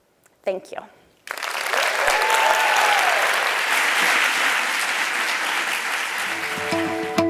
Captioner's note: applause